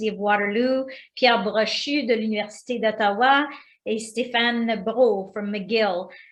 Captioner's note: speaking foreign language